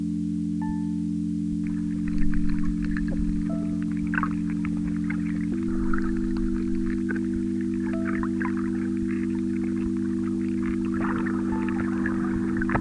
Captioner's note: wind blowing